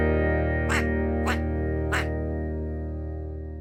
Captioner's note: duck quacking